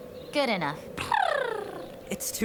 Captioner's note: Pia makes animated sounds